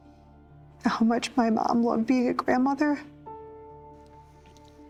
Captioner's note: voice breaking